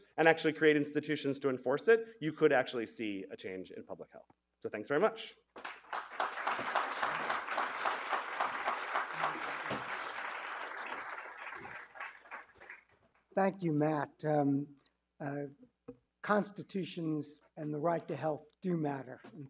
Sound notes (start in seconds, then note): 5.6 audience applauding